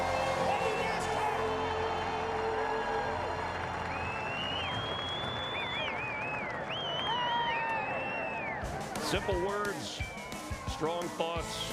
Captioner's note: applause